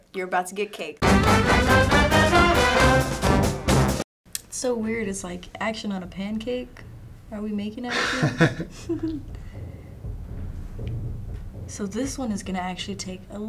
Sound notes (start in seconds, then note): 1.0 loud music; 7.9 laughs